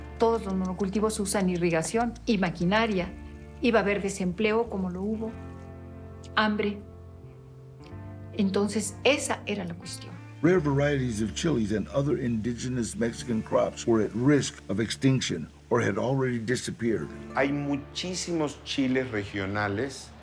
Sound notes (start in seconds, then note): 10.3 in English; 17.5 in Spanish